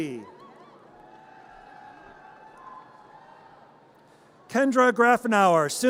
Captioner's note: audience cheers and applause